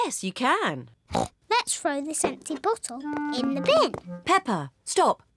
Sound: snorts

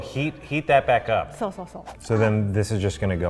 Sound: speaks in foreign language

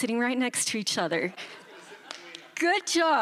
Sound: chuckles

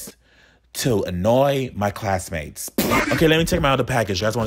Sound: lip-trilling

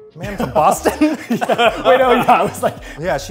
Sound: Phil and Eugene chuckling

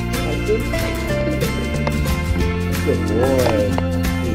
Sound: murmuring

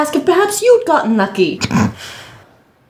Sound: snicker

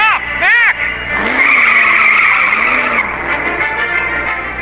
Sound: revs engine, tires squealing

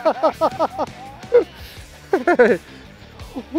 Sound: laughs

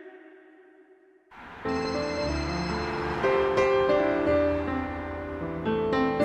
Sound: city noises

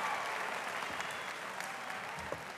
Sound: audience applauding and cheering

